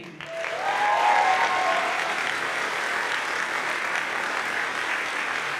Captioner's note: audience cheers and applauds